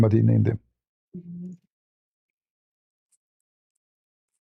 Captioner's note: Arabic